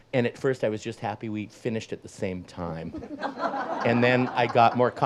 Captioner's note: audience laughs